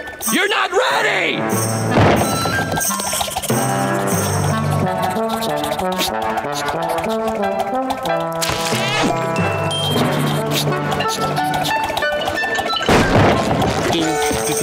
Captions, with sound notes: You're not ready! [sniffing]